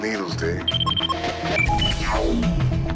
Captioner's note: beeping